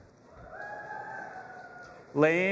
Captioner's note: audience applauding and cheering